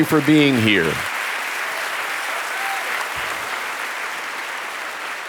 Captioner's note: audience applauding